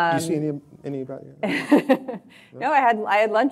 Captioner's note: laughing